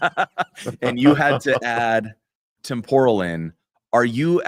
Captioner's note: laughter